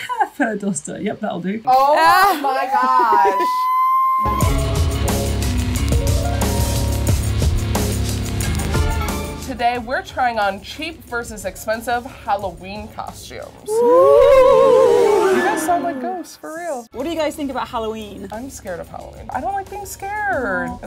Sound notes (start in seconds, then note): 2.2 laughs; 3.2 squealing; 4.3 spooky rock music; 13.7 ghostly noises